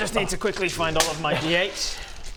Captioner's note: clunk